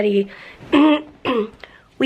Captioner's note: clears throat